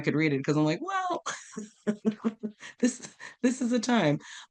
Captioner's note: while laughing